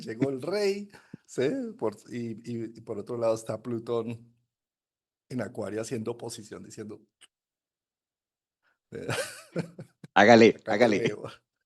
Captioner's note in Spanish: risas